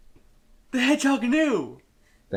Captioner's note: gasp